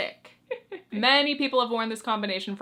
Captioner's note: chuckles